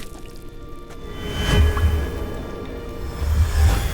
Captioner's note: magical hum